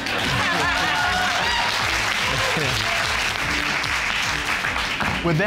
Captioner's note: all clapping and laughing